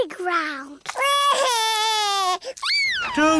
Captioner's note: crying